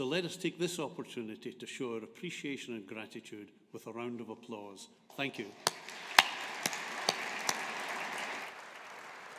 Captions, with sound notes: So let us take this opportunity to show our appreciation and gratitude with a round of applause. Thank you. (AUDIENCE APPLAUDING)